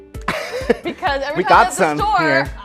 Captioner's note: laughs